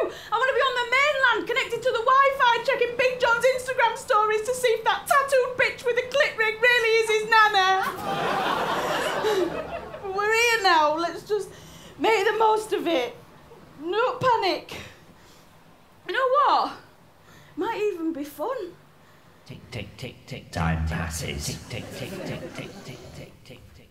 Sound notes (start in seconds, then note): 7.8 mix of laughter and sympathy